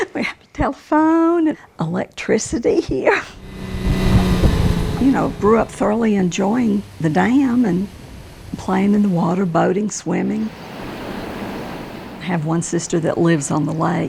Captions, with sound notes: We had a telephone, electricity here. [Engine running] You know, grew up thoroughly enjoying the dam and playing in the water, boating, swimming. [Water flowing] I have one sister that lives on the lake.